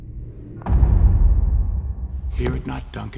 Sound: echoing knock

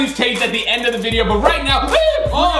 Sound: shouts

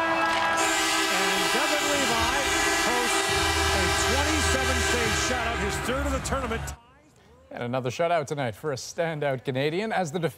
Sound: horns

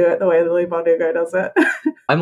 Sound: laughs

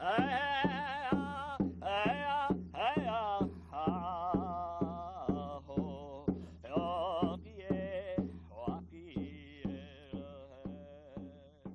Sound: chanting

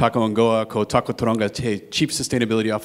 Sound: speaking in foreign language

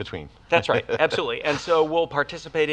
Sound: laughs

